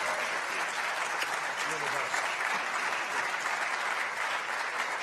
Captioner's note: applause